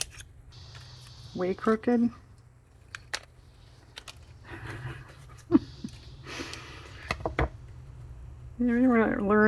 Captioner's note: laughs